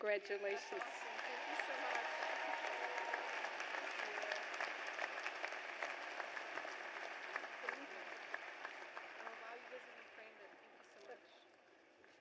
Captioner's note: cheers and applause